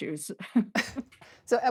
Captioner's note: laughter